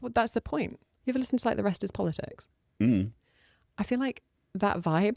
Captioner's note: hmm-mm